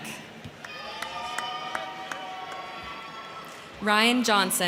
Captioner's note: crowd clapping; crowd cheering